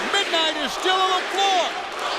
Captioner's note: crowd chatter